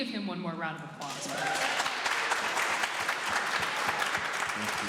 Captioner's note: clapping